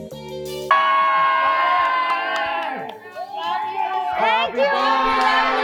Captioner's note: everyone greeting and shouting